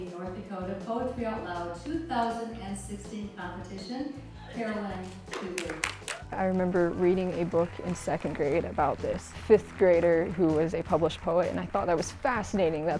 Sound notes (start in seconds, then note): 5.3 applause